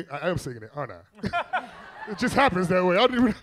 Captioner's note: all laughing